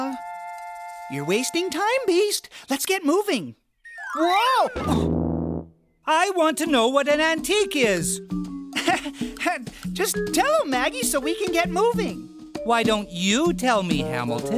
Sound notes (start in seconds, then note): 8.7 uneasy chuckle